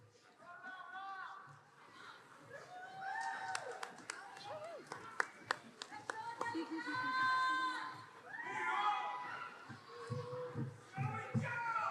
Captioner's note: audience yelling supportively